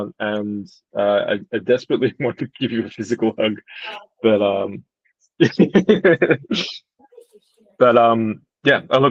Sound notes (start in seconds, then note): 5.4 laughing